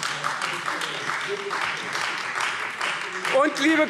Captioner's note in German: Beifall Freie Demokraten